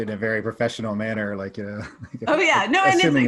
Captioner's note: laughs lightly